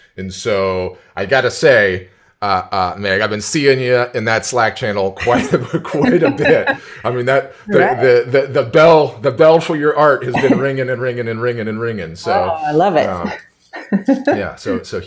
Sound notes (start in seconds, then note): 6.8 both laughing; 13.8 laughs